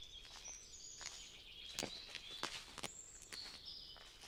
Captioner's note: śpiew ptaków